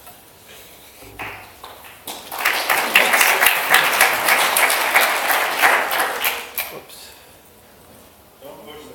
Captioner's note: applause